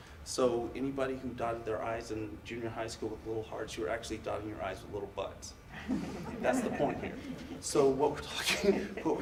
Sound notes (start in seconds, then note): 5.7 audience laughs; 8.7 laughs